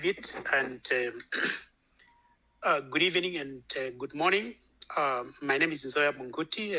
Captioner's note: clears throat